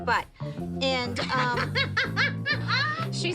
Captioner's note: laughs